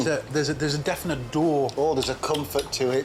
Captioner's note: stammers